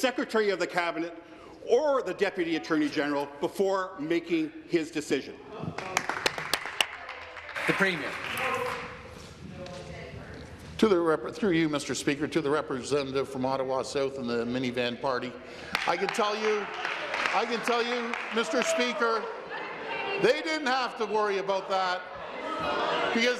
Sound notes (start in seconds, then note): 8.5 applause